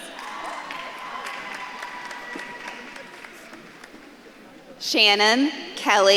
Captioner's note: audience claps and cheers